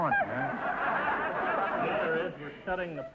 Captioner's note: audience laughter